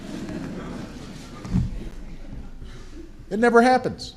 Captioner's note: laughter